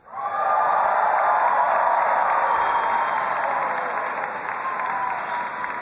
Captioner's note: audience applauding and cheering